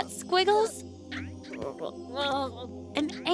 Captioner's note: caterpillar noises